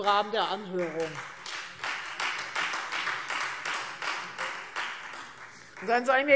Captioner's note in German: Beifall Freie Demokraten